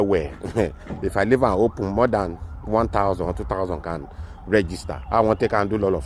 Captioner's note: chuckles